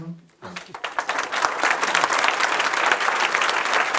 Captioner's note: applause